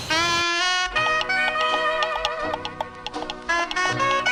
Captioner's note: trotting